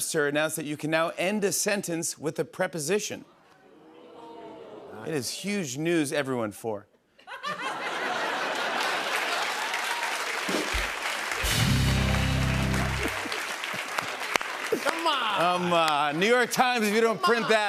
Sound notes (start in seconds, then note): 3.7 audience "Oohs"; 7.2 laughter and applause; 10.1 rimshot; 12.7 laughs